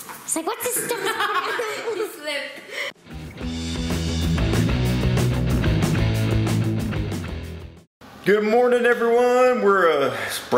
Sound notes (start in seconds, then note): 0.7 laughter; 3.0 rock music